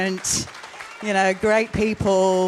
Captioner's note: audience applauds